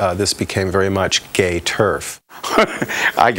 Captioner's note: laughing